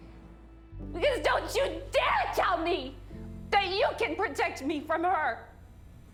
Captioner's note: shouting